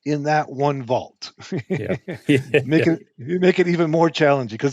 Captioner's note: chuckling